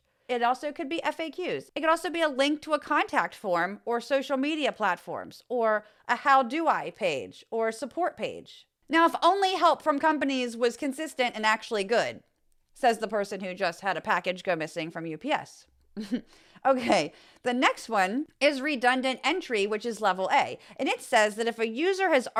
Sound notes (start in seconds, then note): 16.0 laugh